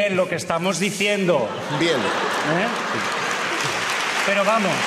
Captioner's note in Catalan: aplaudiments